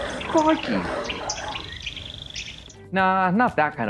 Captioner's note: roaring and jungle noises